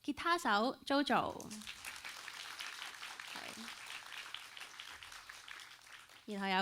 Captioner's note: applauds